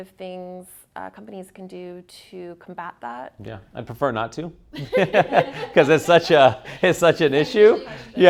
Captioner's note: laughs